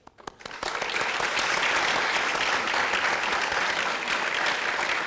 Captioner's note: everyone applauding